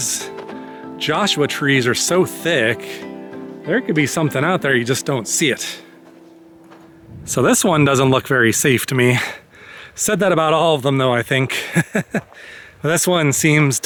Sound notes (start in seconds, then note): 11.6 laughter